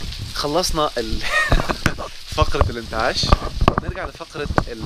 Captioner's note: laughs!